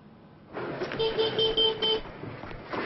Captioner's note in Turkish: Korna çalıyor